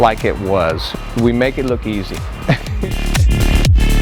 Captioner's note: laughs